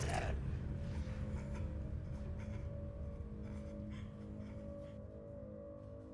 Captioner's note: creature grunting; weapon thudding